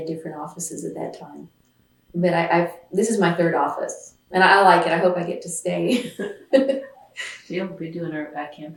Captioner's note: laughs